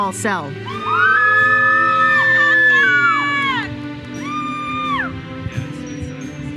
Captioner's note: audience cheers and applauds